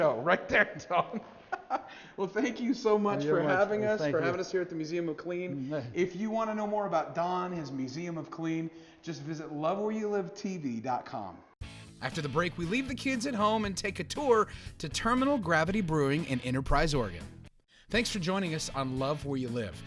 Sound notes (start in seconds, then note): 0.4 laughing; 11.6 upbeat music